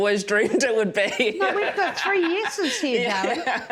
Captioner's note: loud chuckling